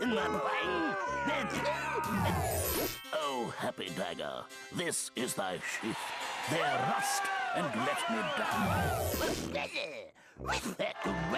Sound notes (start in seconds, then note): 0.0 audience booing; 5.6 crowd cheering; 11.1 audience booing